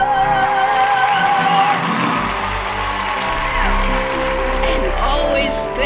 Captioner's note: audience cheering and applauding